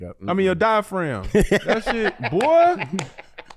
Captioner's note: cackles